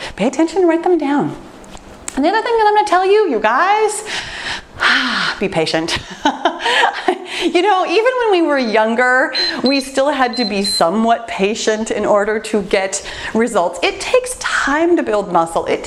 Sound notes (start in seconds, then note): 6.3 laughs; 9.2 timer beeps